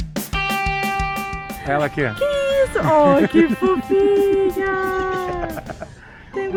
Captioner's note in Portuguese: risada